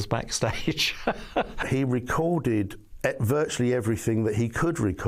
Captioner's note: laughing